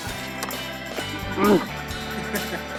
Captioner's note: grunt